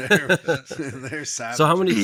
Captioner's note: laughing